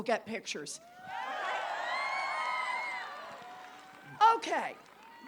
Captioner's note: applause